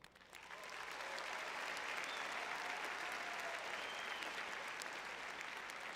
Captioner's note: crowd cheering